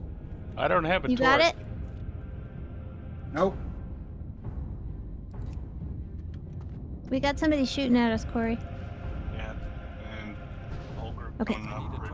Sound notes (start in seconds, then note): none